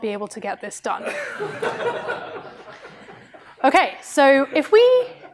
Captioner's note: laughter